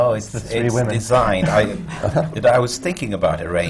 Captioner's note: laughs